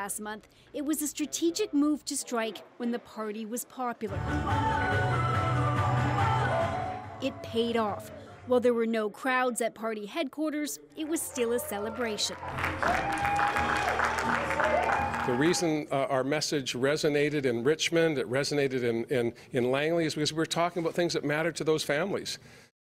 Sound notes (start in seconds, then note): 15.6 applause